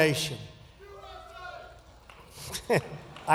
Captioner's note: cheers